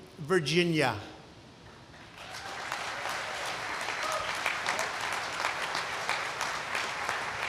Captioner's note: applause